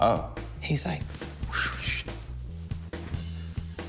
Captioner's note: whooshes